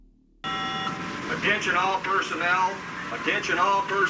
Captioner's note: loudspeaker